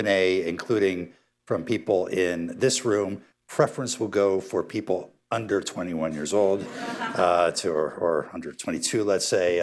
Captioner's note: laughter